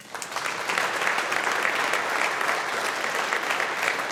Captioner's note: audience applauding